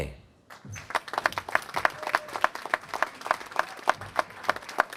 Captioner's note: applause